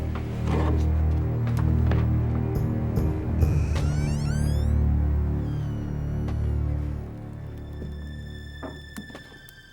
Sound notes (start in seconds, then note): 3.4 door creaks